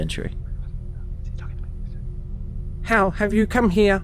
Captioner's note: fartrons whispering